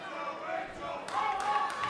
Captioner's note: fans chanting